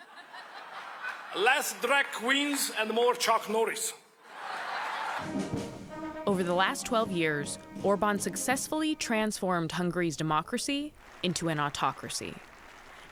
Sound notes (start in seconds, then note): 4.2 laughter